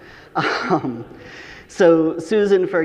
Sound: audience laughing; chuckles

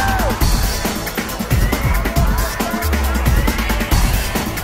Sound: crowd cheering

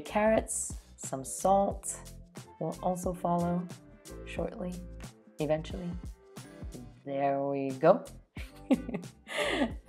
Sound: laughs

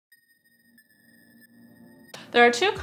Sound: electronic chimes

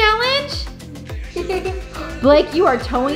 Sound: laughing

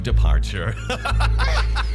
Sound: laughs maniacally

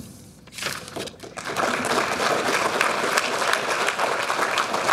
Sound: audience applauding

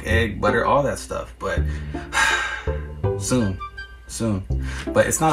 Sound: sighs

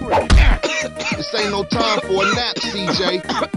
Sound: coughing

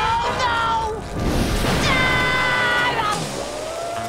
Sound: screaming

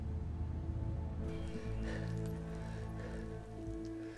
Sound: panting

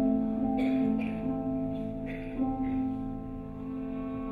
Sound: audience coughing

